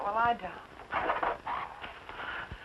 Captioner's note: bird cawing